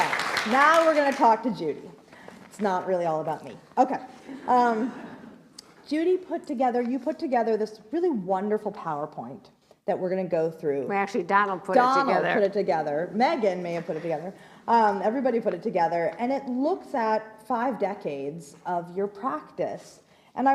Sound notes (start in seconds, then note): 4.6 laughs